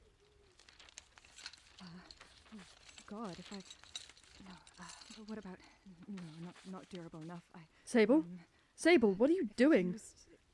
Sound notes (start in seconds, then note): 0.5 sable rummages through tools and paper; 2.2 sable mutters to herself